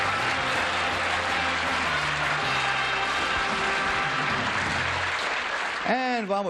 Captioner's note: theme music; applause